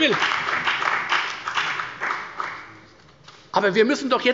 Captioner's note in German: Beifall bei der FDP und der CDU